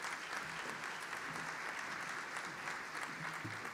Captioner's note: applause